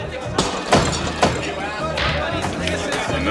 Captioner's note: breaking glass